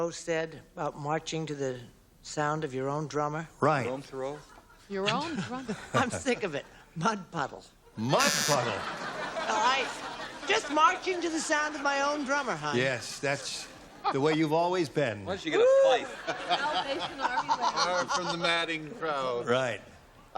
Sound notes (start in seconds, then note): 8.1 buzzer; 15.8 laughter